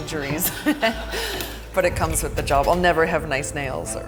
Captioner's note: laughs